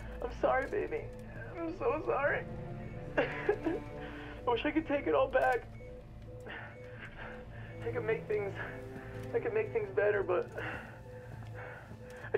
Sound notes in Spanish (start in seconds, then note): 2.9 Josh sollozando